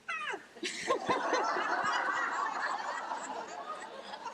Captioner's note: laughs with group